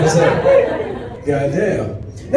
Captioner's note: audience laughs